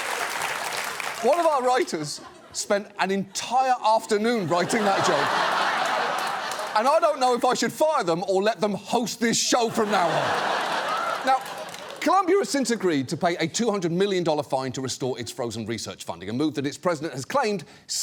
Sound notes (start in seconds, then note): 4.3 studio audience laughs; 9.7 studio audience applauds